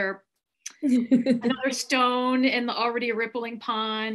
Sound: laughs

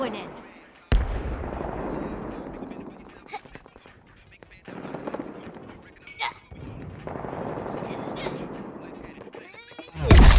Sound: distant gun fire and explosions continue; nearby explosion

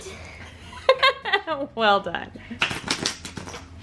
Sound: laughs

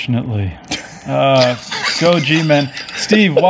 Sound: laughing

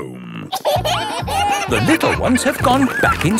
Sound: kids giggling

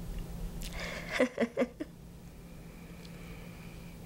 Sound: laughing

